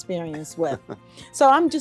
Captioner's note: laughs